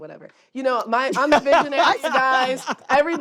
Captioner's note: laughs